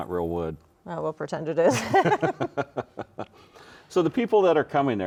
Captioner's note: both chuckle